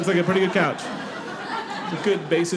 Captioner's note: audience laughing